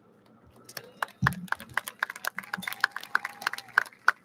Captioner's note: audience lauds